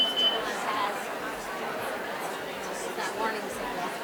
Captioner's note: timer beeping